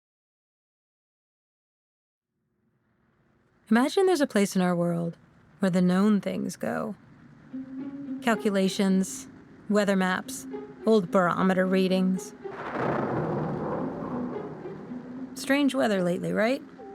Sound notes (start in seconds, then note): 15.2 sound of wind, rain pattering on roof